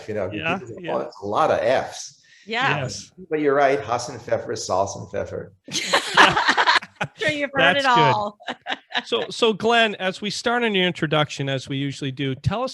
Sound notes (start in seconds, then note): 5.7 presenters laughing